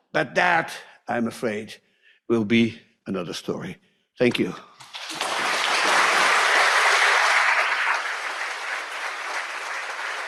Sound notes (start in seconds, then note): 4.8 audience applauds